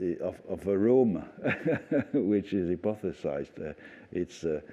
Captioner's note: laughter